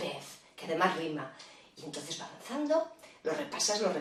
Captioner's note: in spanish